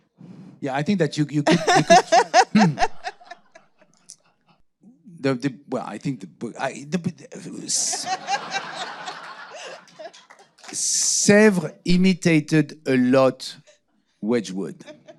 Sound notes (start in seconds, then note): 1.4 laughing; 7.4 audience laughing